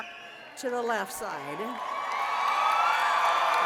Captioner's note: cheers and applause